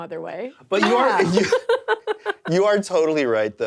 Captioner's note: laughing